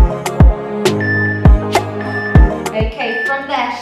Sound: timer beeping

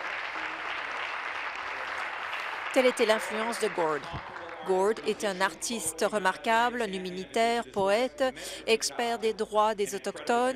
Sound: applause

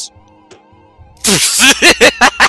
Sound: bonk

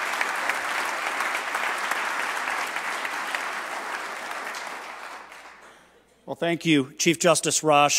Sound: applause

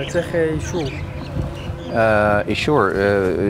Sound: speaks Hebrew

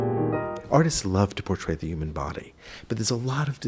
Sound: jazz piano; voiceover

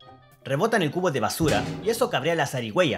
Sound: thud!

